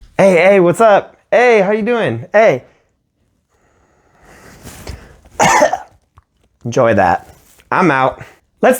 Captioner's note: cough